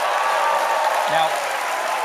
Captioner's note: cheers and applause